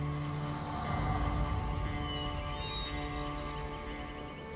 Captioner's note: birds chirping